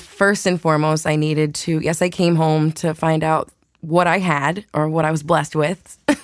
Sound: chuckles

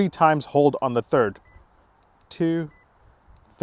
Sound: beep

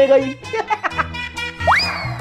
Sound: laughing

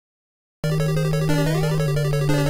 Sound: castle music; jump sound; castle music

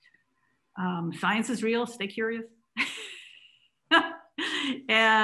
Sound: laughs

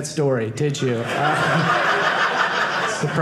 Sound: audience laughing

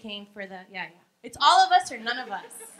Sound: laughing

